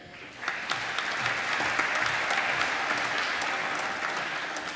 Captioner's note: applause